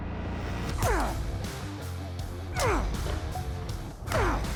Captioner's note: grunting